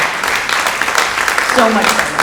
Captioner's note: audience applauding